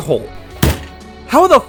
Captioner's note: slams his head on the keyboard